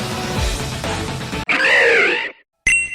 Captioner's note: Maraskern's Cry